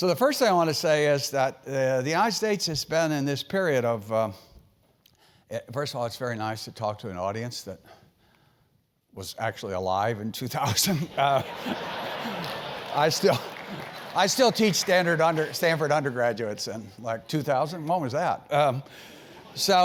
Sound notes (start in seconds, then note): 11.0 laugh